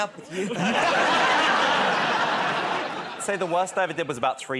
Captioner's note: laughter